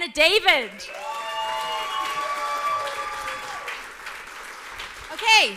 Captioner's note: audience cheers and applauds